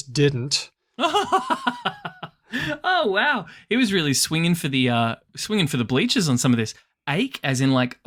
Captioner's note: laughs